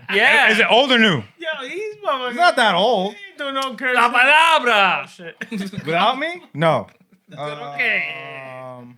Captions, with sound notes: Yeah. Is it old or new? Yeah, he's probably-- He's not that old. He don't know-- (Non-english Speech) Without me? No. Is that OK?